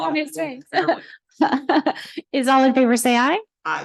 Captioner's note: laughter